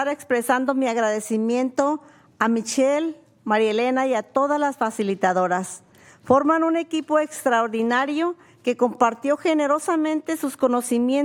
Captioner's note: speaking spanish